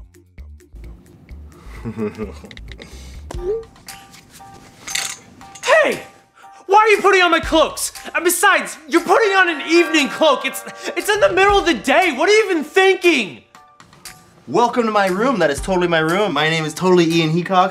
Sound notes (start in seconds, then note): 1.7 devious chuckle; 9.0 doorbell rings